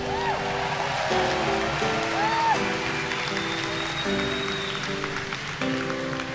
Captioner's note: audience cheering and applauding